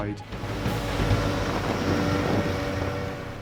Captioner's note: boat droning; water splashing; water whooshing